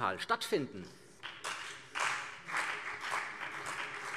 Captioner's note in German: Beifall CDU und vereinzelt BÜNDNIS 90/DIE GRÜNEN